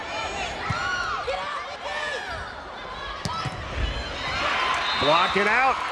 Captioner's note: players yelling